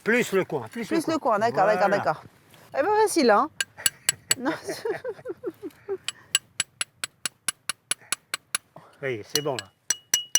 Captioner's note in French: rires